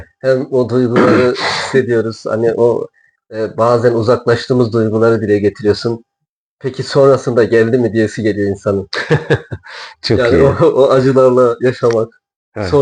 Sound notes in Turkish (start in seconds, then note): 8.9 kahkaha